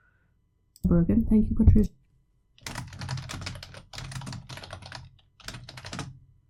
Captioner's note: typing